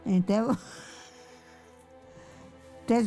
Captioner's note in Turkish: gülüyor